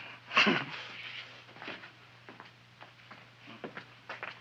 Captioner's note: feet thumping